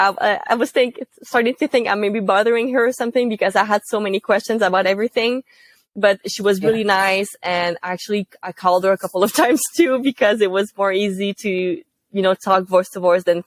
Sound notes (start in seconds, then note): 9.7 laugh